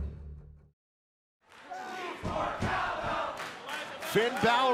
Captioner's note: fans chanting